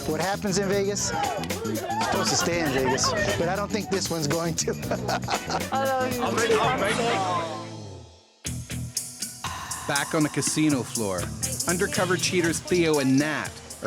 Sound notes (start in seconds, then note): 5.0 chuckles